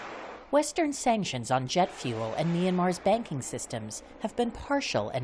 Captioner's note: voice-over